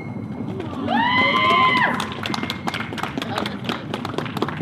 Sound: audience cheers and applauds

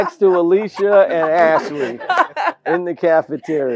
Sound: laugh

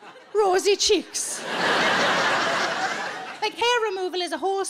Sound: audience laughing

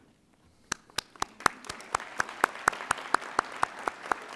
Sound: audience applauding

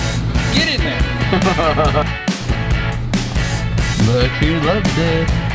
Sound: laughs

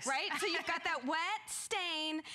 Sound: laughter

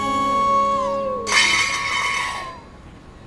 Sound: utensils banging loudly

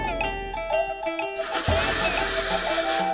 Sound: shivering sound

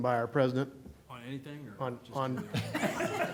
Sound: laughter

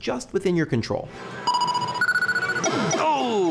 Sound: 8-bit chiming

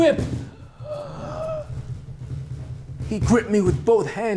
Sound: gasp

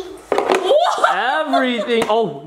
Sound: laughs

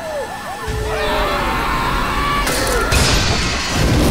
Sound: screaming

